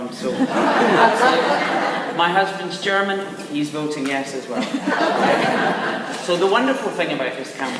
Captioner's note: laughs